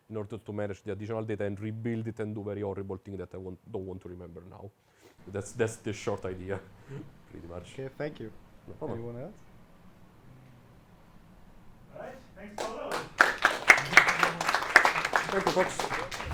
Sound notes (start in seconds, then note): 12.5 audience clapping